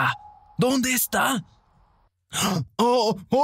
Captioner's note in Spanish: Sonido de búho